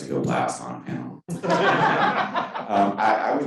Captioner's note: all laughing